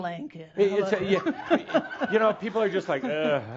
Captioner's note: she giggles